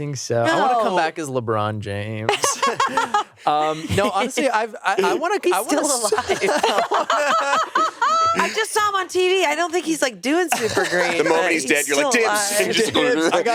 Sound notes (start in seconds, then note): 2.3 laughs